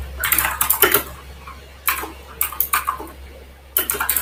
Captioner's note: keyboard clacks